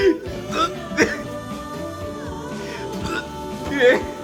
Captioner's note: trying to make him puke by making retching sounds